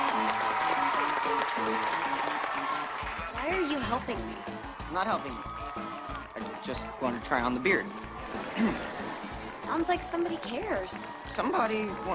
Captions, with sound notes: Why are you helping me? I'm not helping you... I.. just.. wanna try on the beard. *clears throat* Sounds like somebody cares. Somebody...